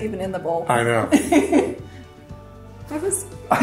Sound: laughs

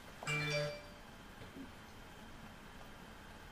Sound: my dad’s cell phone is ringing!?

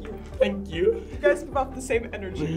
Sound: laughs

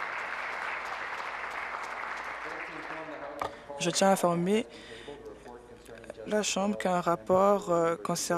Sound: applause

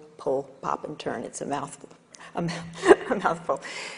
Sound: laughing

